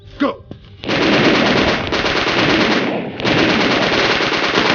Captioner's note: gunfire rattling